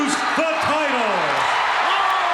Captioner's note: crowd cheering